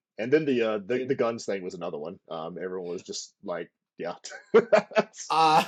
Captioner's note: laughter